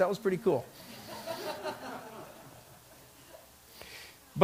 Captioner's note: laughter